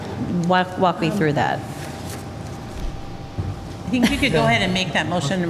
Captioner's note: laughter